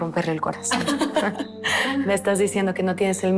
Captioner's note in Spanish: Risas